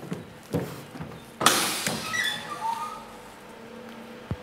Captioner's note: hissing, squeaking